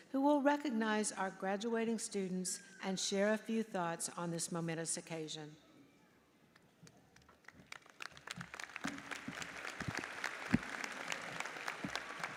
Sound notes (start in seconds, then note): 7.2 audience applauds